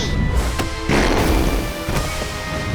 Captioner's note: farting